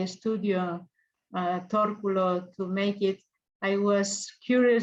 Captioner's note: speaks in foreign language